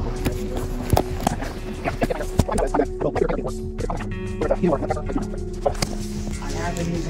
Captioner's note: fast forwarding